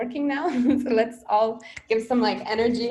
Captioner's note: laughs